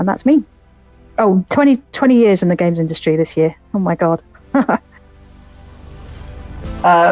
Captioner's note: laughs